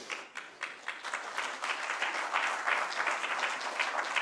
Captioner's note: applause